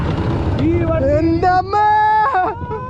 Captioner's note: screaming